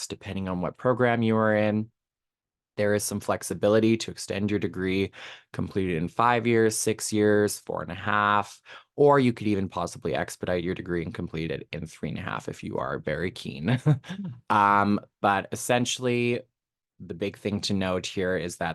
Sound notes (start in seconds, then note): 13.7 chuckling